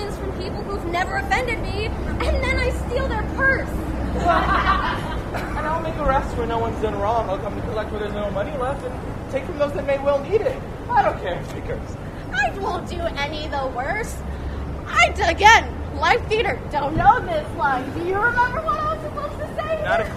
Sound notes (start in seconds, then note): 4.1 laughter